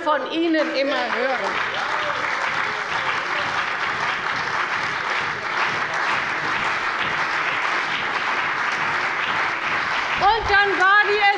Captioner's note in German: Beifall bei der CDU und dem BÜNDNIS 90/DIE GRÜNEN